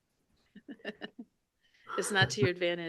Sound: laughing

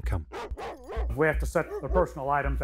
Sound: dog barking

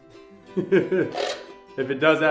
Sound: chuckles

